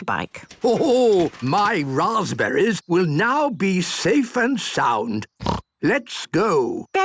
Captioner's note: snort